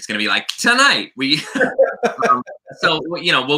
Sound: laughter

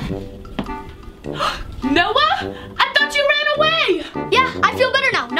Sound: gasps

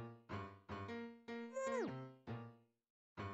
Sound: Great Gazoo teleport noise

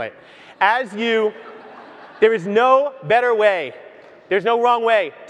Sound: audience laughs

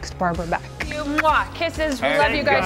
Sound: lips smacking

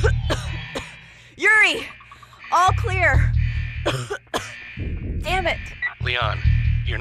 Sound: coughs

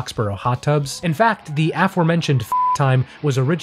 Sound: beep

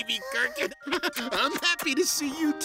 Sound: laughing

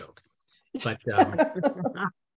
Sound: chuckling

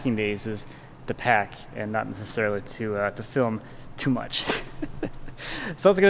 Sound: laughs

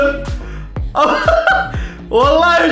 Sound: laughs

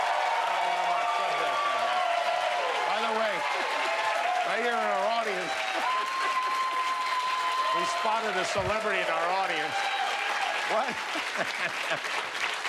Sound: cheers and applause

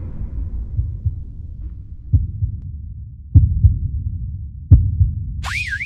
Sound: low heartbeat noise

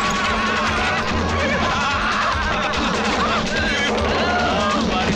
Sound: laughs

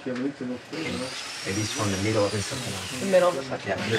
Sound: speaking in foreign language; power saw in the distance

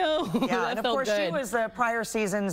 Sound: laughter

